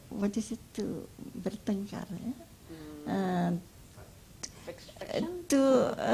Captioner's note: speaks Indonesian